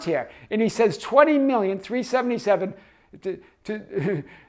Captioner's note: chuckles